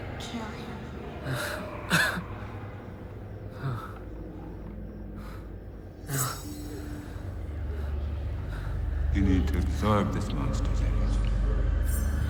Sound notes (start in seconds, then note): 1.3 Mark coughing